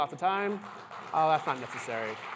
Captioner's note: applause